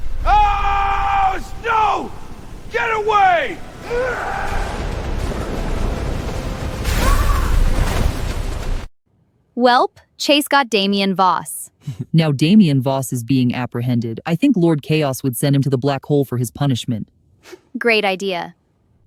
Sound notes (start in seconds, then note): 12.2 giggles